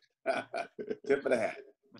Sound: laughing

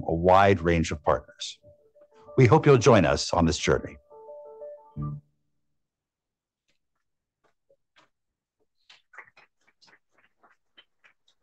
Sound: applause

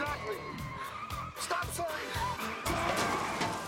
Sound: gasping

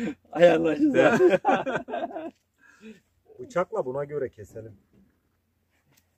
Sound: laugh

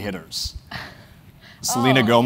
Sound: laugh

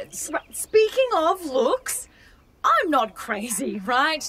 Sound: none

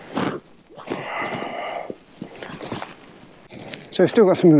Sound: breathes heavily

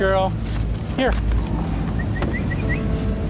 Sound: whistle

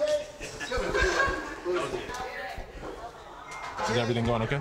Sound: helpers laughing

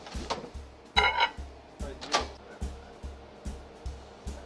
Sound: bowl clanking

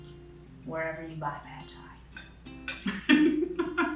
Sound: laughing

